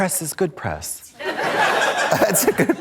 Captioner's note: audience laughs